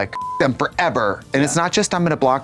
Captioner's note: beep